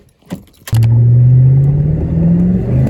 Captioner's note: mouse Click, Slowly accelerates while turning